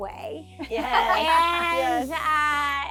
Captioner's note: laughing